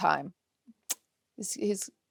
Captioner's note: clicks tongue